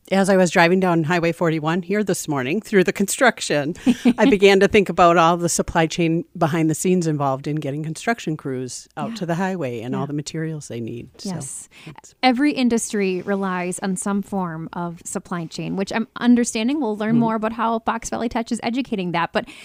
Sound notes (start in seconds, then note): 3.8 laughs